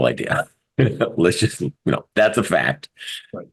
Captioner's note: laugh